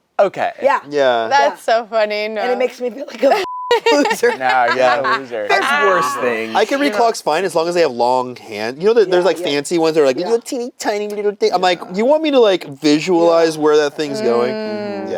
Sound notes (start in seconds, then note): 3.4 beep; 3.6 laughs